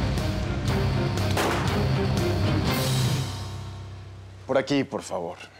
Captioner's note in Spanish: detonación de disparo